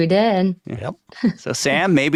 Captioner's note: chuckles